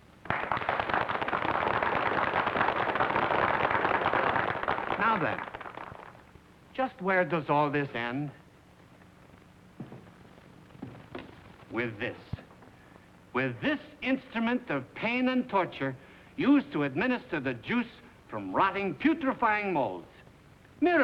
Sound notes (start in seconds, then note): 0.2 applause; 9.7 footsteps